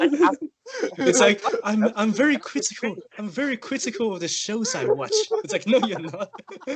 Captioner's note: sarcastically